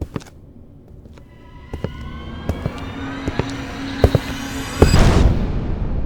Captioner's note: footstep sound getting louder